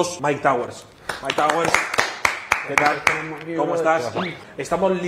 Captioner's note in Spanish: aplauden